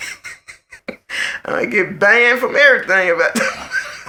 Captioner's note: laughs; laughs